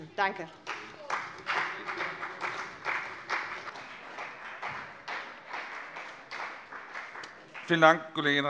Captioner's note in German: Beifall CDU